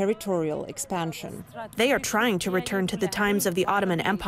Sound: through translator

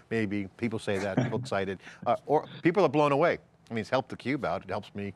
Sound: chuckles

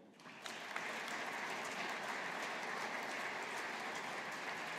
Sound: audience applauding

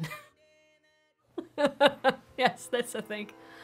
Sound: laughs

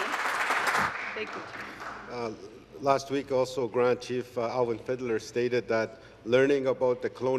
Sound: applause

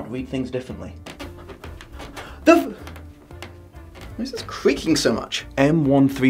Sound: squeaky floor

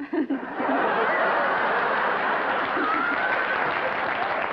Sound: laughter and applause

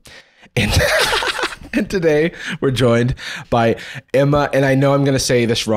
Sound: laughing

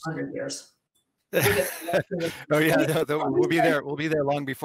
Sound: laughs

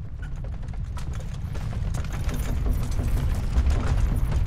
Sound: house rattling

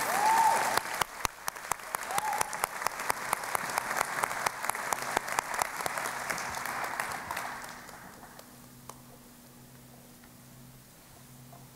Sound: applause

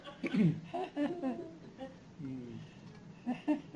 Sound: chuckles

